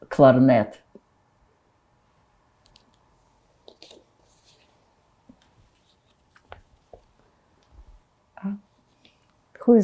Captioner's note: pauses 8 seconds